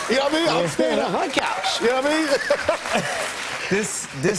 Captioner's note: both laugh